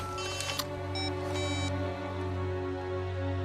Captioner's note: cell phones beep